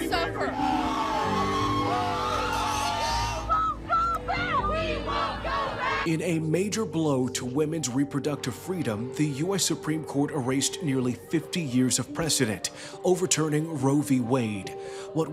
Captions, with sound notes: Women without means will suffer. [screaming] [chanting] We won't go back. In a major blow to women's reproductive freedom, the U.S. Supreme Court erased nearly 50 years of precedent, overturning Roe v. Wade.